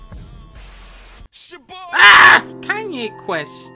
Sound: screaming

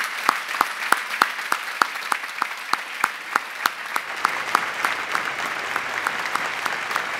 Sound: applause

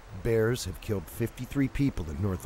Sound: voiceover

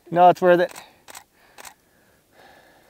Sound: click, click, click

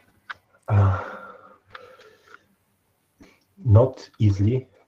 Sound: sighs

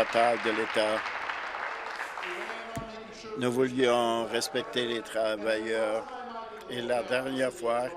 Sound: applause

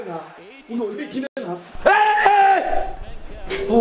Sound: screams

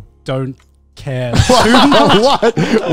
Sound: everyone laughs

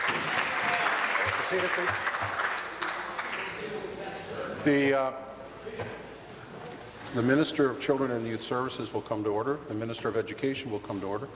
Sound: applause

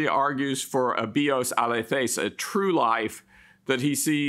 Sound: speaks in Greek

